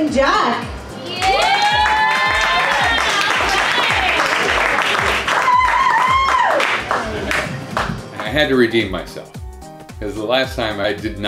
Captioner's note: applause